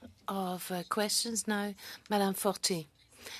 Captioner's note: speaking French